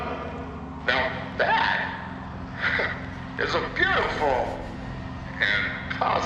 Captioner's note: laughs